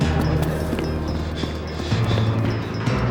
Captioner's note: panting